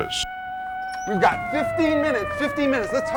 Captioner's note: alarms Sounding